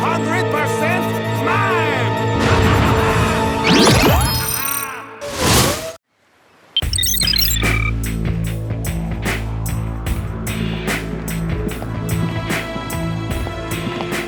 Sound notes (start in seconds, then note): 7.7 laughing